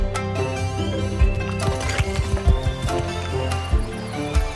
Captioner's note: munching